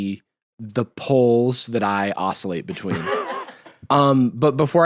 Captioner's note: laugh